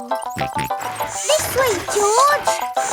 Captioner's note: george snorts